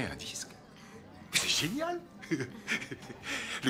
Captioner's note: chuckles